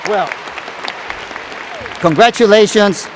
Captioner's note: applause